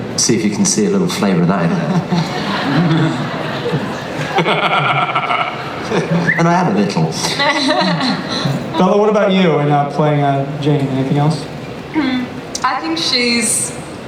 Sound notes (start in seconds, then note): 1.6 laughter